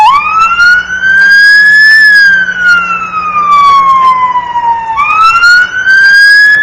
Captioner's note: sirens